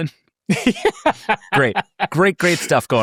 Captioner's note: laughing